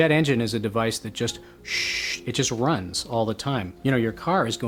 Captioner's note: shhhhh